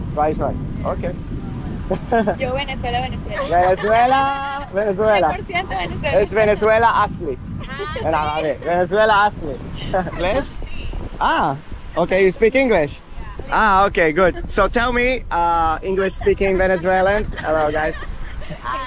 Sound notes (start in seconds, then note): 5.1 Arabic